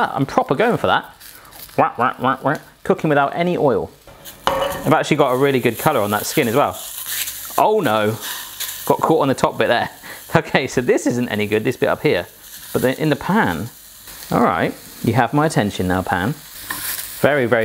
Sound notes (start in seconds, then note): none